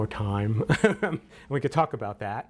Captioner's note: laughs